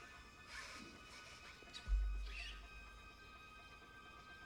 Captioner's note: whispering